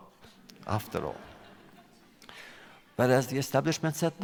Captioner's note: laughter